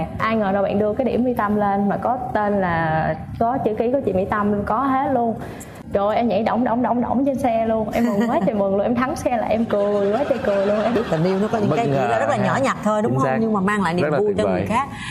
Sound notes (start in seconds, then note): 8.6 chuckles